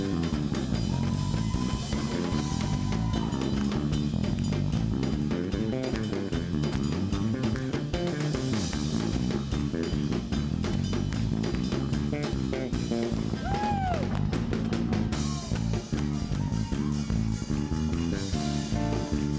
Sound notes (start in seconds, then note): 13.3 screams; 18.4 upbeat music